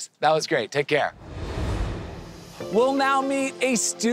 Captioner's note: air whooshing